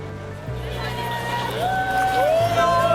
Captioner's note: people cheering